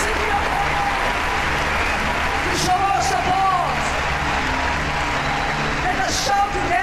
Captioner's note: audience applauding